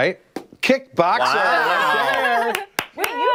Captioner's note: laughter